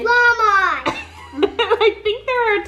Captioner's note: laughing